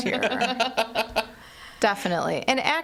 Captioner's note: hosts laughing